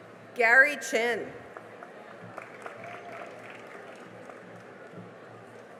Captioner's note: cheering and applause